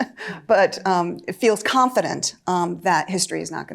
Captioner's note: chuckles